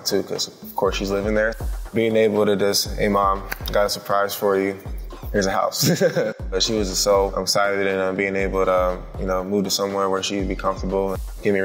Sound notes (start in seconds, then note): 5.7 chuckles